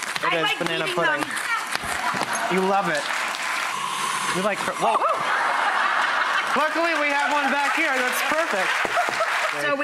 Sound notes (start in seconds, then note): 4.9 laughing; 8.7 audience applause